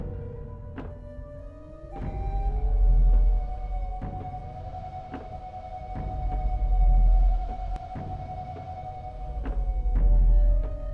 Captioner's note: footsteps